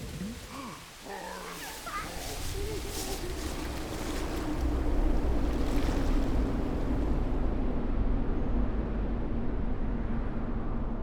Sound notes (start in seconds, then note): 0.0 animal noises; 3.6 wind blowing